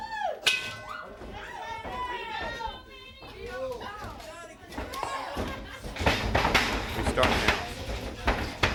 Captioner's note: crowd cheers; bell rings